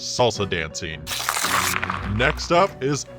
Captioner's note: paper crackling